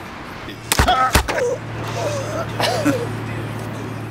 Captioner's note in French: rire